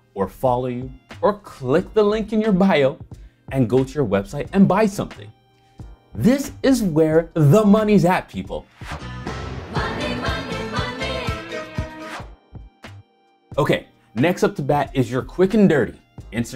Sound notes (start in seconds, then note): 8.7 upbeat music; 8.8 whooshing